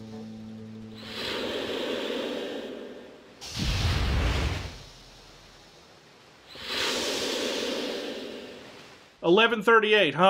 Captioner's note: a train's steam evacuation